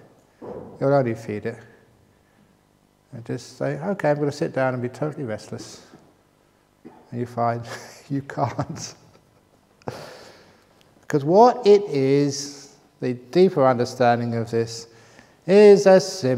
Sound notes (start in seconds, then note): 8.4 laughs